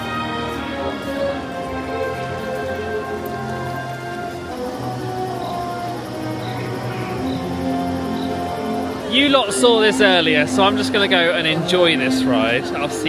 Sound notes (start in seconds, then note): 0.1 dramatic orchestral music; 6.6 crickets chirping